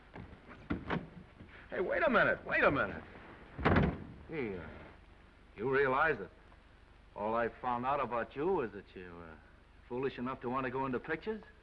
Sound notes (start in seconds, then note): 0.5 door unlatching; 3.5 door slams